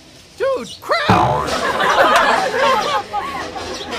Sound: audience Laughing

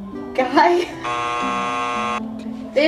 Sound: buzzer buzzing

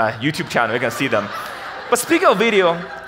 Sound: audience laughs

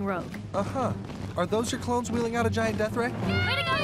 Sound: marching feet

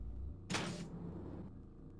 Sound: loud sliding door sound

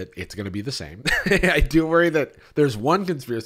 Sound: laughs

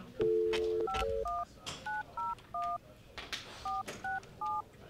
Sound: phone dials

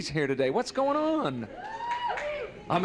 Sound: cheering

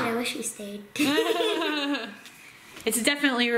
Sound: laughter

